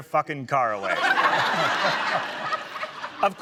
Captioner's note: laughter